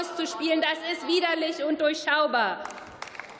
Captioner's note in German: Beifall